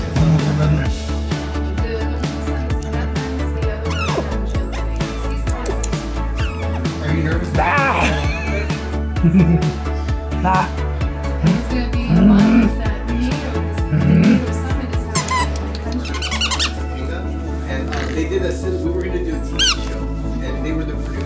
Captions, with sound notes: Mumumumum. [Squeal] [Tongue clicks] [Squeal] Ah. [Laughter] Ha. [Grunts] [Grunts] [Squeaky toy] [Squeaky toy]